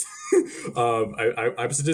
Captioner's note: laughing